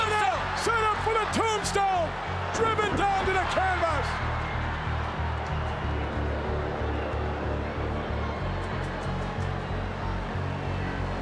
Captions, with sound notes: set up for the tombstone. Driven down to the canvas! (ominous music) (crowd cheers)